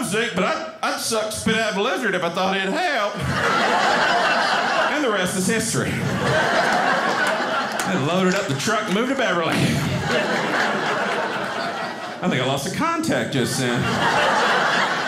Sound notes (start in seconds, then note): 3.5 audience laughing